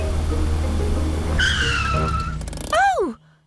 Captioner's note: tires screech